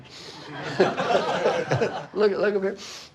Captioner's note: laughing